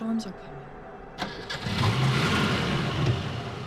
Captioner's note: engine starts